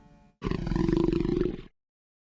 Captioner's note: growling continues